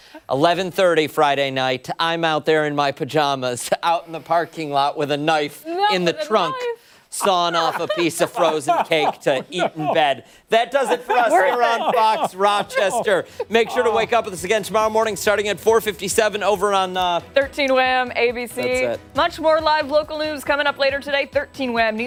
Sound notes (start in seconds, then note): 15.0 laughter